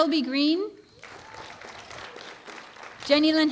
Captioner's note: applause